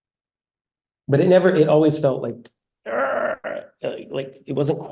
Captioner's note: grunting